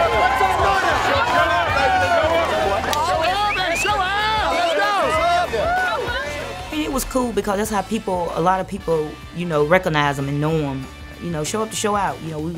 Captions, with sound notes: [Crowd]. Show out baby. Show up and show out. [Crowd noise]. It was cool because that's how people – a lot of people, you know, recognize them and know them, you know show up to show out.